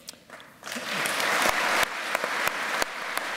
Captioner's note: applause